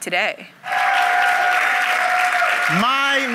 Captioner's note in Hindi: जय-जयकार करना